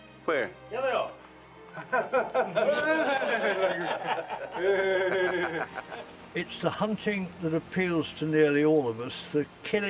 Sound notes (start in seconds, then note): 1.7 guy laughs